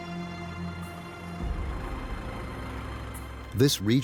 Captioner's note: bus motor rumbling